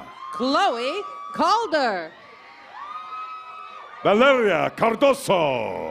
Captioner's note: cheers and applause